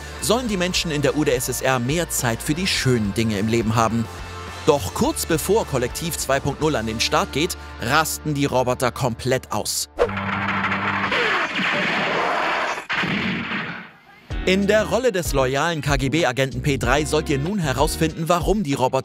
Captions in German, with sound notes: sollen die Menschen in der UdSSR mehr Zeit für die schönen Dinge im Leben haben. Doch kurz bevor Kollektiv 2.0 an den Start geht, rasten die Roboter komplett aus. (Mehrfaches Krachen) In der Rolle des loyalen KGB-Agenten P-3 sollt ihr nun herausfinden, warum die Roboter